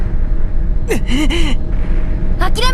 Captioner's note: disgrunted grunt